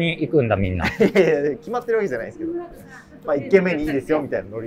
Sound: laughing

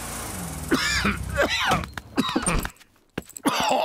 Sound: coughs

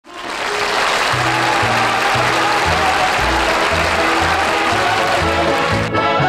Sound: crowd applauding

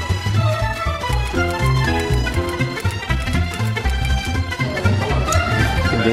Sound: fast whimsical music; keys clicking

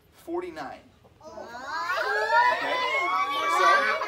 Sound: children yelling

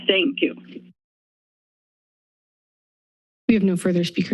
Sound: silence

